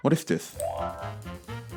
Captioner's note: opening sound effect